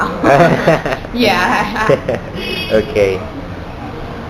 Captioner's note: laughter 00:02:13